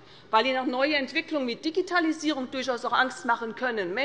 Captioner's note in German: none